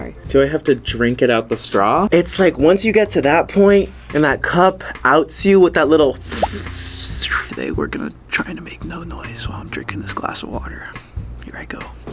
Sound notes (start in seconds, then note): 6.2 slurps